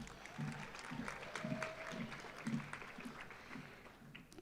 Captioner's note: audience applauding